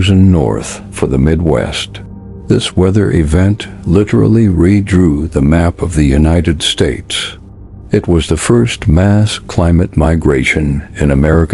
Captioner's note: sarcastic Commentary